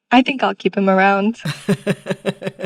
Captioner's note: laughter